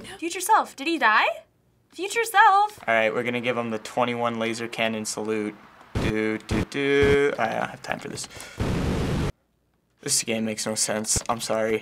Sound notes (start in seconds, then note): 5.8 starts to hum; 8.6 beam roars